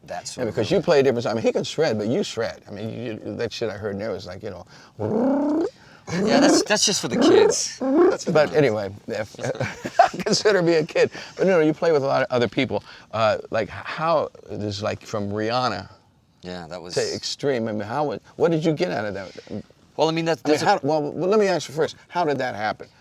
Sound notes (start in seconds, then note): 6.1 imitates guitar; 9.2 laughs